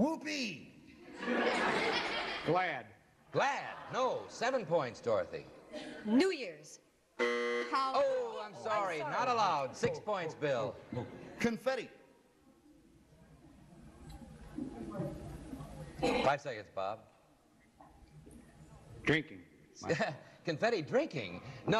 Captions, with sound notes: -Whoopee! (laughter) -Glad. -Glad, no. Seven points, Dorothy. -New Year's. (buzzer sounds) -Hol-- -Oh, I'm sorry. Not allowed. Six points, Bill. -Confetti. -Five seconds, Bob. -Drinking. -(laughs) Confetti, drinking?